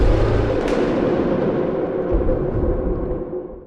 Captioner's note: impact